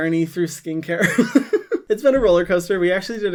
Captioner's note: laughs